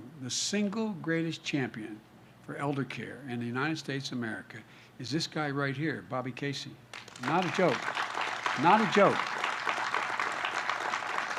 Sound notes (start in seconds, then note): 6.9 applause